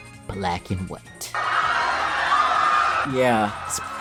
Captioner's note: horror Movie Screaming Sounds